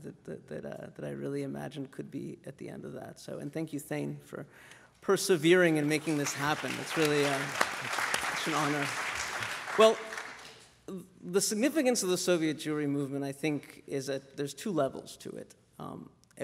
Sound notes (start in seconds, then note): 5.6 applause